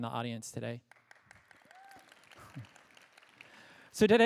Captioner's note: applause